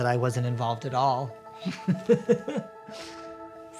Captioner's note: laughs